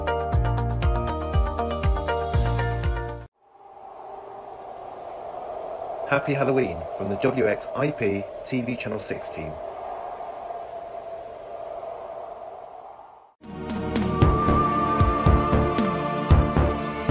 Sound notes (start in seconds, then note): 10.9 wind whooshing; 13.4 eerie music